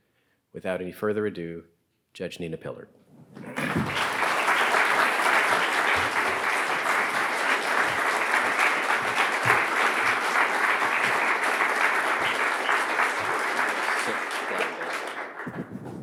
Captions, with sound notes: Without any further ado, Judge Nina Pillard. (audience applauding)